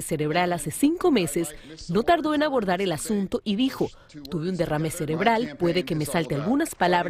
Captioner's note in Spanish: habla en ingés